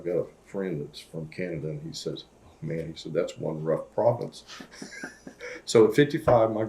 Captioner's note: laughs